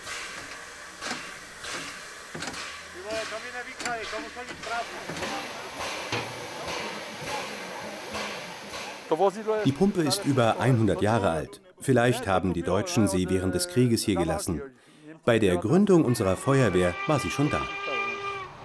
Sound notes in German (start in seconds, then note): 8.9 tschechisch